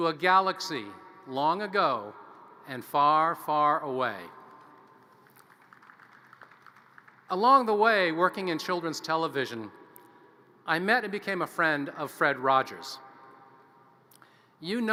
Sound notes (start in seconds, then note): 5.1 audience applause